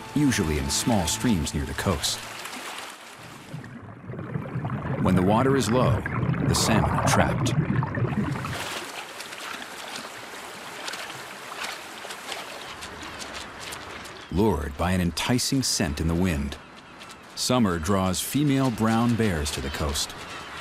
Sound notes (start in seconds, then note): 2.4 fish flopping in water; 10.4 flops in water